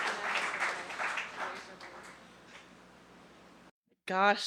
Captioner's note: applause